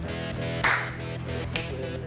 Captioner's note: hands clapping; clapping